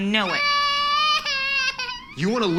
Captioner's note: crying